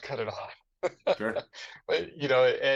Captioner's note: chuckles